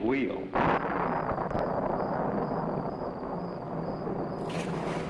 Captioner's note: thunder rumbling; crickets chirping